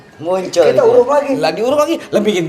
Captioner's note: laugh